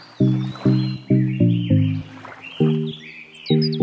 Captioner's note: birds chirp